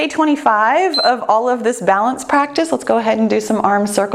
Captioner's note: timer beeps